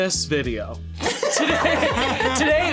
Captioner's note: all laughing